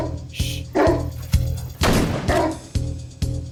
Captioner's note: shot blasting; barking